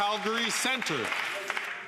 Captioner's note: some Applause